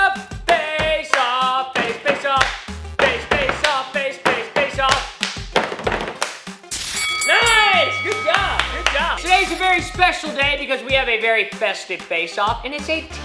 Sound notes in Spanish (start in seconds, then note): 4.8 dando palmadas en la mesa; 6.8 campanas de batalla de boxeo